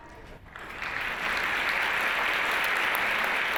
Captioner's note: applause